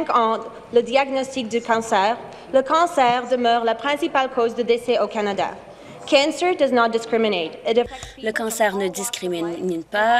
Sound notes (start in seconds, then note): 1.5 speaking in French